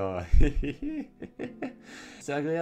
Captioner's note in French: Rires